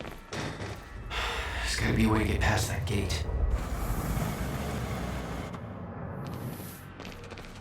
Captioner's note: sighs